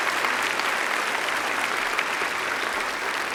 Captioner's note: applause